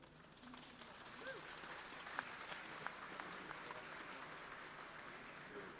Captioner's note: applause